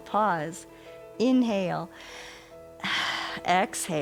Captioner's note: inhales and exhales